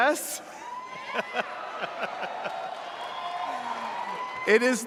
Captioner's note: audience cheering